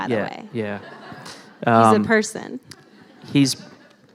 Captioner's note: laughter